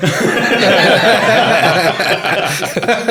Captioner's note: laughing